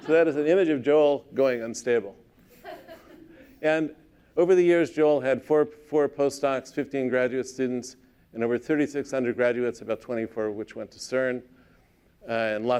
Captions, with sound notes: So that is an image of Joel, going unstable. [LAUGHTER] And over the years, Joel had 4 postdocs, 15 graduate students, and over 3,600 undergraduates, about 24 of which went to CERN,